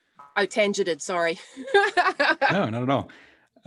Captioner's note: laughs